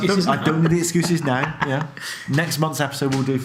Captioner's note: laughs